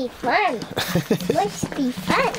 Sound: father laughs

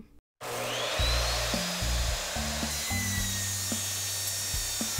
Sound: saw buzzing

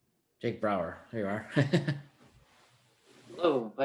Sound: giggles

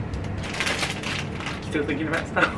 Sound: packaging rustling

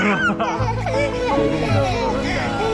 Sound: laughing

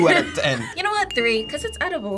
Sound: bell dinging

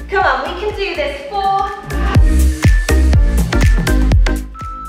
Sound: timer beeping

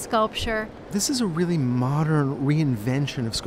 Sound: voiceover

